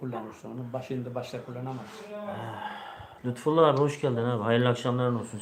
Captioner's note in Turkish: iç çeker